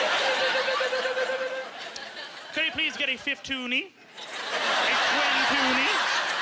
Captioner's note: imitating metal rolling